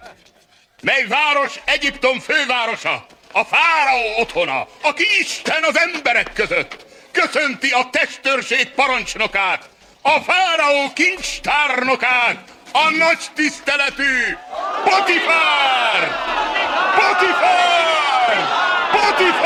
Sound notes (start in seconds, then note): 13.4 crowd